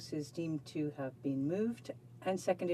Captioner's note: speaking French